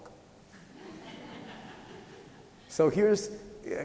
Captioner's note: laughter